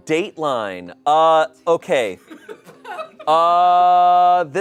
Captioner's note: audience laughing